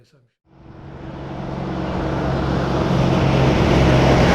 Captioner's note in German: Automotor heult